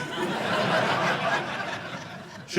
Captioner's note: audience laughing